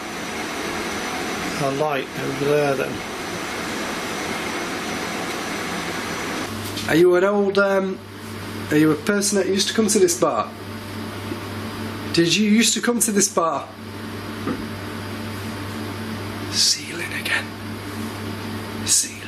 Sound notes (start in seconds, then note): 14.4 thump